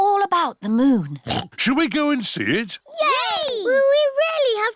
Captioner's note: oinks